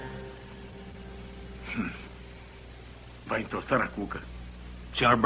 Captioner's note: snickers